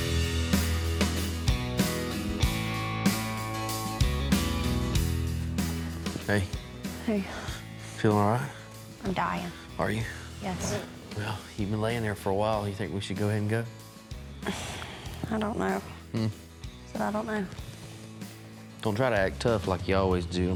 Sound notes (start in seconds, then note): 14.4 sighs